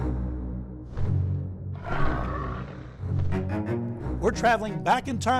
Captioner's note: dramatic music; dinosaur roars